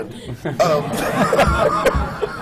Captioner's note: laughter